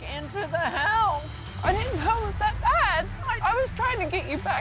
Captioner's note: voice breaking